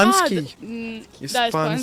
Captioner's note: Spanish